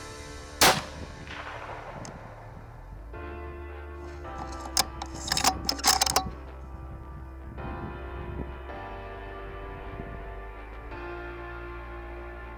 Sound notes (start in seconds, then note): 0.6 gunfire pops; 4.7 hopeful music continues